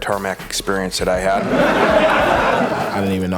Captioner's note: laughter